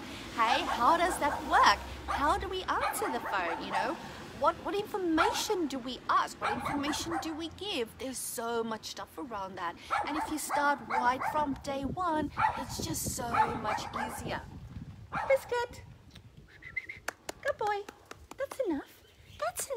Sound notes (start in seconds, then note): 0.2 dog barking; 13.2 dog barking; 16.5 whistles and claps